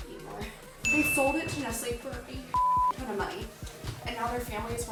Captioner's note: beep